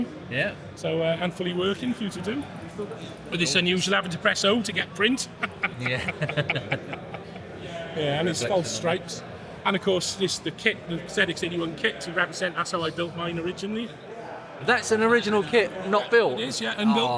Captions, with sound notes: So handfully working for you to do. But this unusual habit to press O to get print. (Laughs) Yeah, and it's false strikes. And of course, the ZX81 kit, to represent that's how I built mine originally. That's an original kit not built? It is, yeah, a new kit.